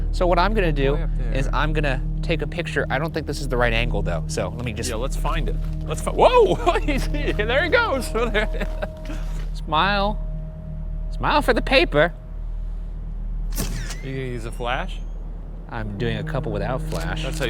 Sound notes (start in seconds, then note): 7.8 chuckling; 13.5 camera snaps and whirs